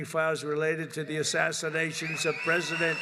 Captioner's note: applause